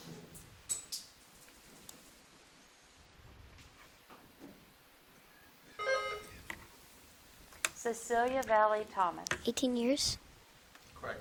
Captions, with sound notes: (bell dinging) - Cecilia Valley, Thomas. - 18 years. - Correct.